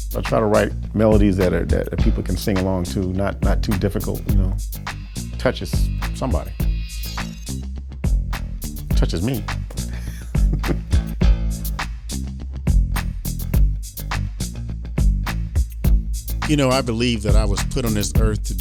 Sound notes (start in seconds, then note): 9.8 laughing; 12.1 funk music